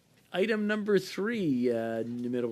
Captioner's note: speaking French